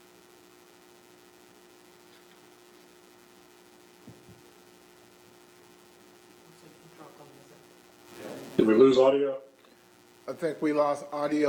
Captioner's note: lost audio